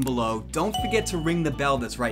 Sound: bell dings

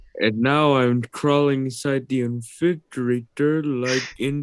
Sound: grunts, Gasps

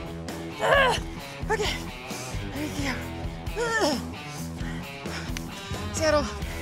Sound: groans

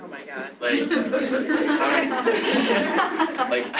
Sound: laughter

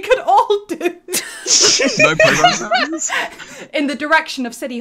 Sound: laughter

